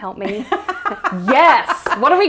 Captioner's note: laughs